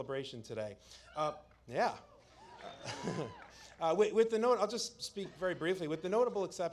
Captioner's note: applause